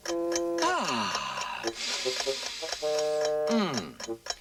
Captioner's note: tick tick tick; inhaling